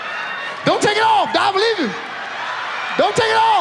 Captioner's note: audience laughs